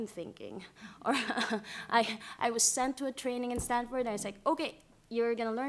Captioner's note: laughter